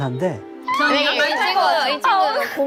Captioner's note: murmuring